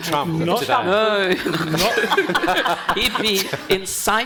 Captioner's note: panel and audience laughing